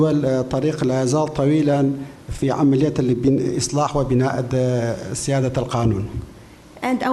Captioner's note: speaking in foreign language